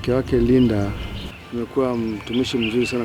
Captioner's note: speaking in foreign language